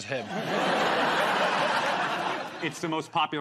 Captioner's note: laughter